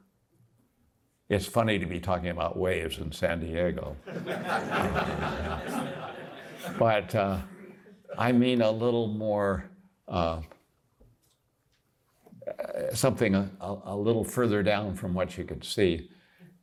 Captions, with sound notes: It's funny to be talking about waves in San Diego, [LAUGHTER] but I mean something a little further down from what you could see.